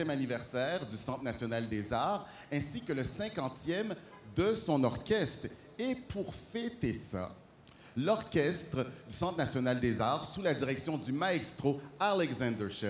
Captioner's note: speaking French